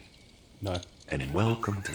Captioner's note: laughs